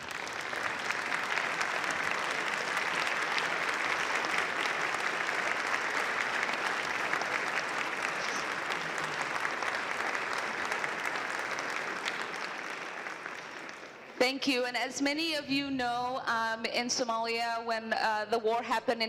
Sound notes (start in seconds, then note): 13.7 applause